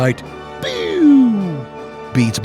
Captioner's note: boooo